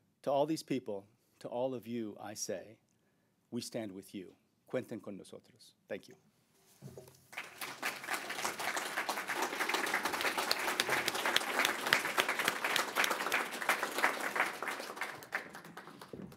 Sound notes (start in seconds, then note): 8.5 applause